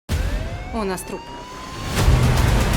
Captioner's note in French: sirènes; musique de tension